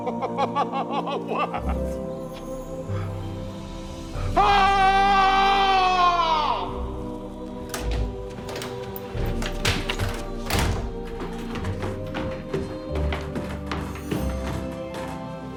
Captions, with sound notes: Oh, wow. Aaaaaaaaaah! (Sound of door opening)